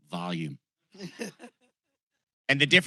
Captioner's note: laughter